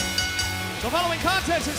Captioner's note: bell ringing